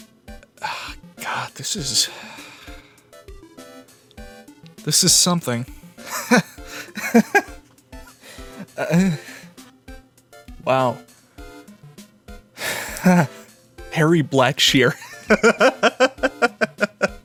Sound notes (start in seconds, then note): 6.0 weird laugh; 14.9 laughter